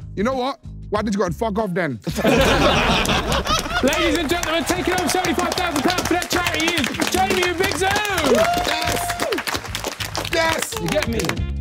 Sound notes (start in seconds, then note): 2.1 everyone laughing; 8.3 everyone cheering; 11.4 light music